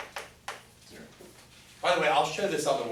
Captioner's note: voiceover